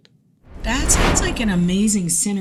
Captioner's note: screen whooshing